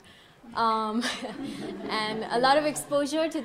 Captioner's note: audience laughing